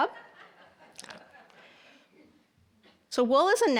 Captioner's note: audience laughing